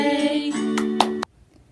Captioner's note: claps